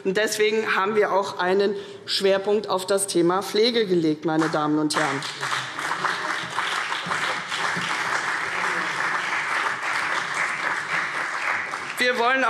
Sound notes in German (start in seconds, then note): 4.9 Beifall CDU und BÜNDNIS 90/DIE GRÜNEN